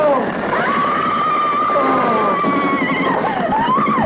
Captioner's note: Sam moaning; Liz screaming